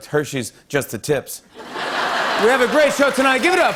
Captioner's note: laughter